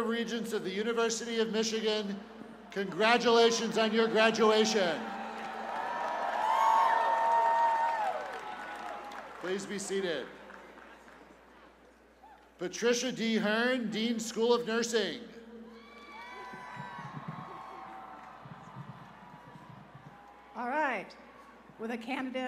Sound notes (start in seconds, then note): 5.6 cheers and applause